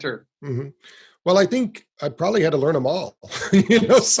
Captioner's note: laughs